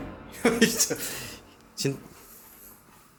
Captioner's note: laugh